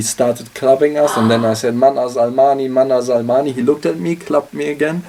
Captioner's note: non-english speech